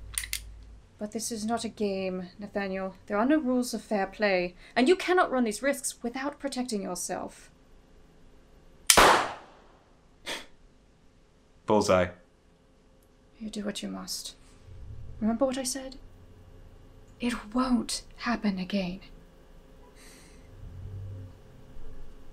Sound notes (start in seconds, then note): 8.9 gunshot; 9.6 chuckle